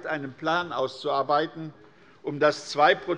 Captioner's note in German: none